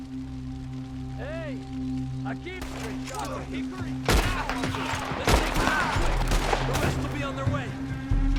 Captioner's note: in Spanish